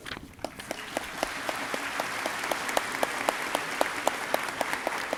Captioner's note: audience clapping